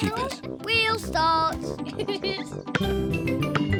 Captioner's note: laughs